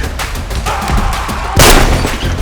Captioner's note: gun fire